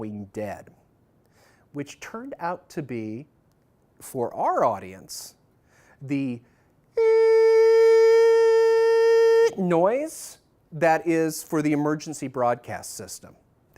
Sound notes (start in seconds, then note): 6.9 makes tone noise